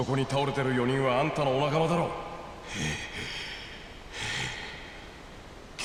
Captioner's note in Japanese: ため息